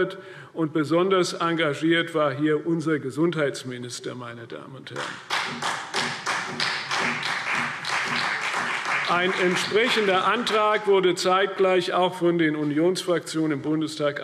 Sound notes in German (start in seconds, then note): 5.0 Beifall CDU und BÜNDNIS 90/DIE GRÜNEN